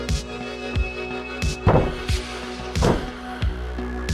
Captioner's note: slaps on the wall